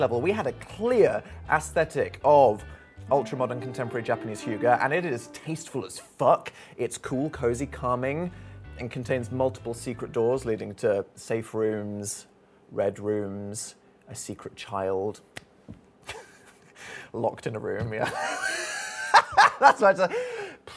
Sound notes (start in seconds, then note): 16.0 laughs; 18.3 wheezing laughter